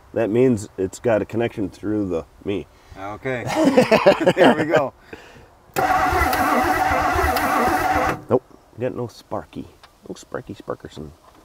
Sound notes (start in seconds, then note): 3.4 laughs; 5.7 vehicle engine humming